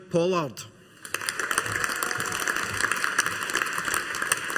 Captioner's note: audience applauding